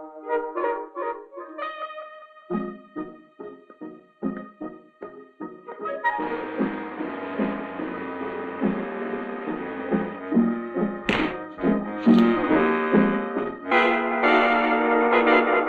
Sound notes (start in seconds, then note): 11.0 punch thuds; 13.7 tense music